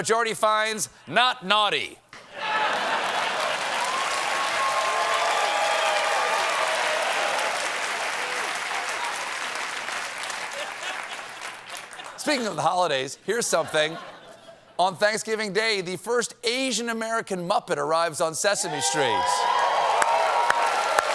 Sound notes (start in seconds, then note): 2.4 applause; 3.4 laughter